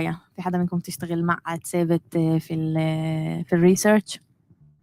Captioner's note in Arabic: لغة أجنبية